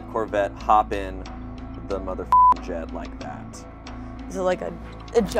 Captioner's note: beep